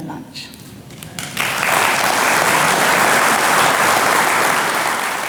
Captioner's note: audience clapping